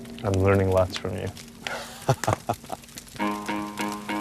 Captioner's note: chuckles